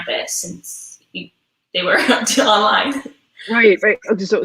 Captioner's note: voice muffled